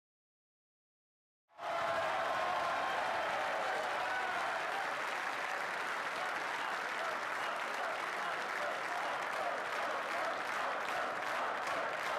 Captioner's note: applause